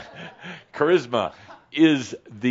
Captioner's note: chuckling